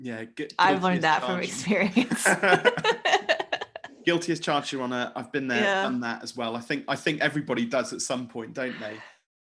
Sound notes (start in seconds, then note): 2.0 both laughing